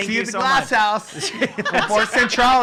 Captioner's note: laugh